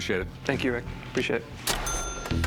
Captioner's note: cash register chiming